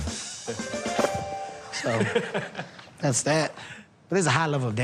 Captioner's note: chuckles